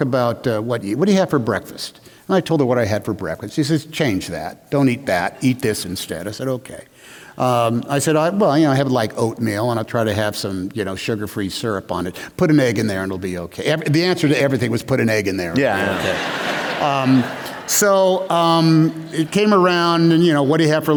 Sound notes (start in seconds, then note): 15.5 laughter